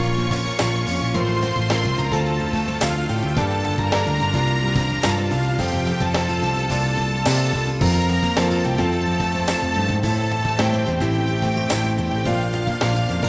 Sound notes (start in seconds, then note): none